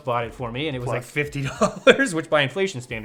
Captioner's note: chuckles